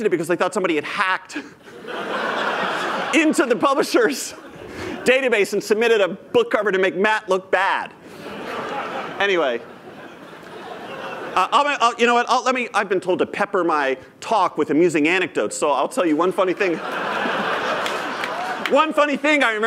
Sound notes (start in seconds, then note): 8.1 laughter; 16.6 laughter